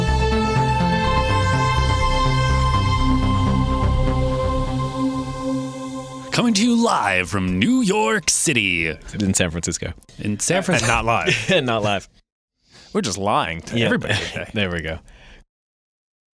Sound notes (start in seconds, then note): 10.4 laughs; 13.8 chuckles